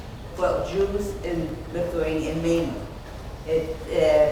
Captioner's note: speaking off mic and muffled